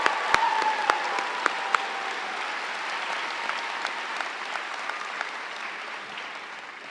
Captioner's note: audience cheering; audience applauds